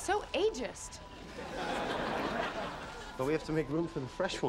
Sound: audience laughing

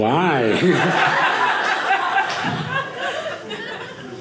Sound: audience laughing

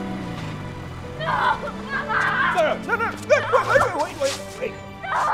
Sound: Spanish

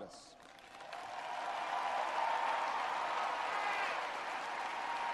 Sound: audience cheers and applauds

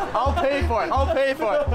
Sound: laughing

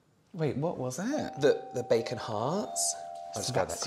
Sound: doorbell Ringing

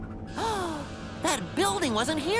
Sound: gasps

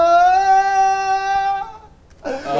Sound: argh

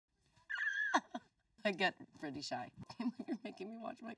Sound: Lindsay squealing

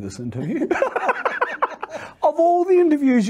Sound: both laughing

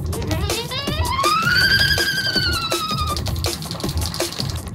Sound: exciting music; high-pitched squeal

